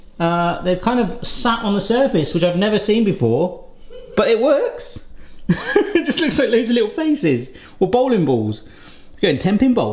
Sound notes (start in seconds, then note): 3.8 laughing